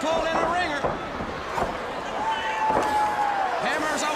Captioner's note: crowd cheering